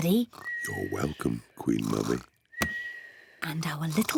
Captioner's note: whispers